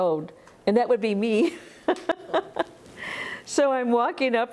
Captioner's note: laughs